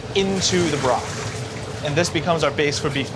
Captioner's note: seasoning sploshing